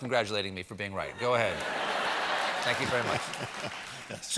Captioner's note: laughter